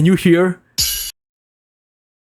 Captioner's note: ching